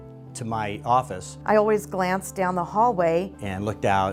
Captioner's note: voiceover